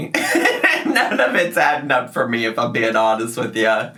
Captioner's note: laugh